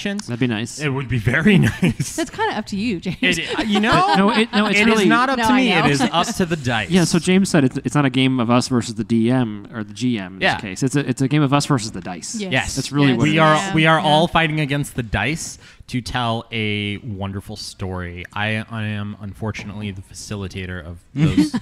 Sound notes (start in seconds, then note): 3.2 laughs